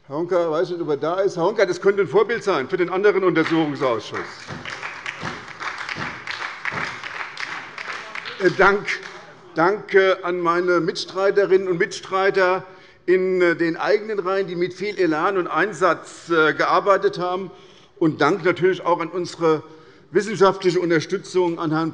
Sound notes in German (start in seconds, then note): 4.7 Beifall bei der SPD - Zurufe von der CDU